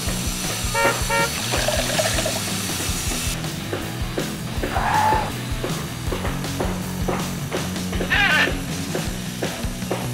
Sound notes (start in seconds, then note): 0.6 horn honking; 1.4 water pouring; 3.4 hammering; 7.6 duck squeak